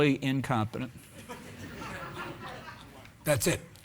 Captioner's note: audience laughing